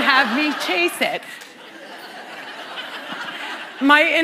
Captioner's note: laughter